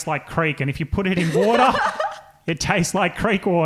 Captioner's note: laughing